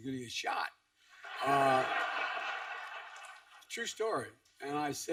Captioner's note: laughter